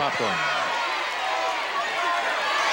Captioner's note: audience shouting